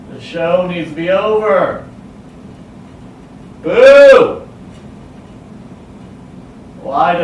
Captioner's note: none